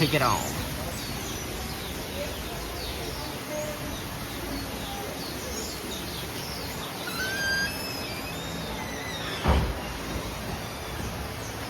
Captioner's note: birds tweeting